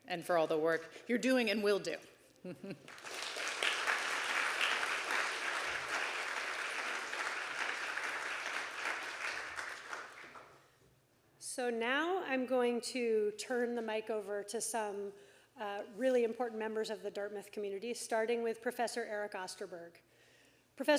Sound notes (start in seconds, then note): 2.8 audience applauding